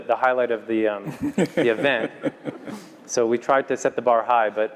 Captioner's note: laugh